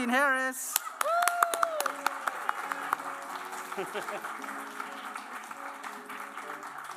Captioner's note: applause